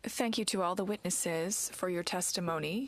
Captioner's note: speaking in French